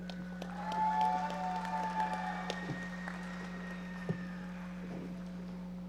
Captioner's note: audience members cheering and applauding